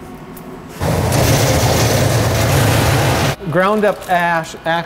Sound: machine roaring

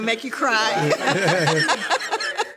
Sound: all laughing

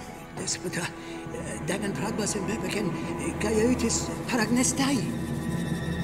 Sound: suspenseful music; man speaking in Greek

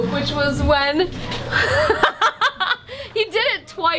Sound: laughter

